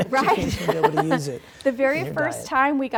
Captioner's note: laughter